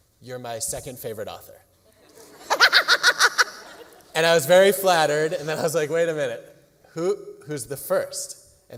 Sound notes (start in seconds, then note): 1.9 laughter